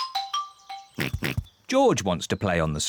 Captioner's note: children giggling; oinks